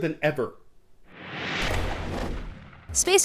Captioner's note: voice-over